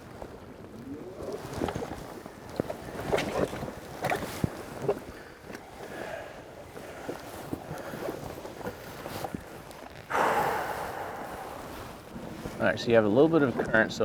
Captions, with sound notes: (water plopping) (exhales sharply) All right, so you have a little bit of a current,